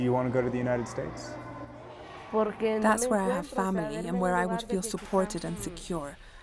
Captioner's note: through translator